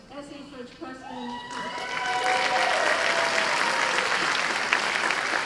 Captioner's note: cheers and applause